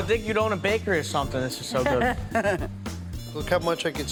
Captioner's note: laughing